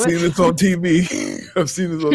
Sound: wolf laughing

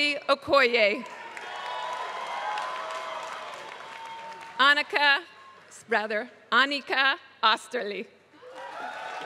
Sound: applause; applause

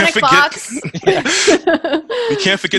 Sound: laughs

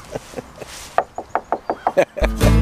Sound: knocks

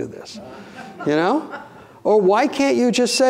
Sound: audience laughing

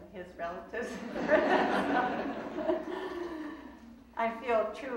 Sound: laughing

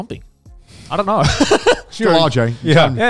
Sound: laughing

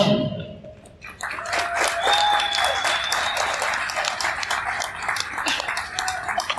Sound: cheers and applause from crowd; laughing

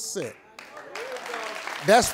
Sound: applause

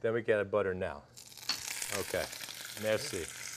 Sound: sizzling

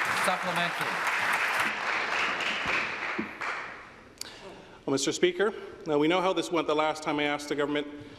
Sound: applause

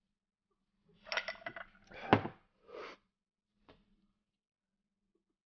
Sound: glasses clinking

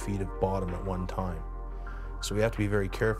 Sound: voiceover

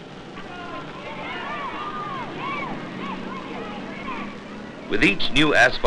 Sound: people shouting

